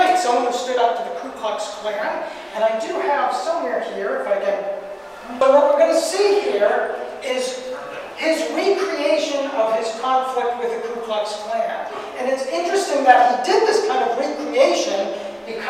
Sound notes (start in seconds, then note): none